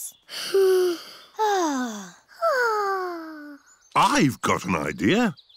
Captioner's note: all sigh